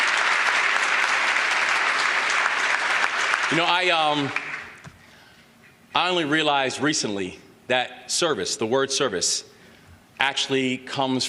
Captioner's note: applause